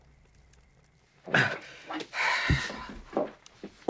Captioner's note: panting